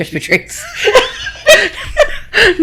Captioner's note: laughing